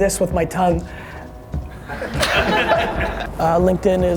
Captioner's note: audience laughs